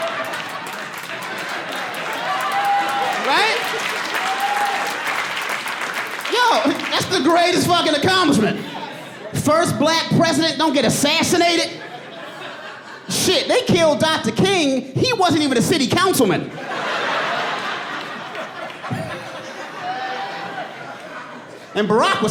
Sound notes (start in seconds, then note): 16.4 audience laughing